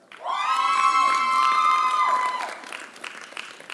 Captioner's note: applause